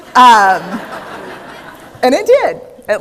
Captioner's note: laughter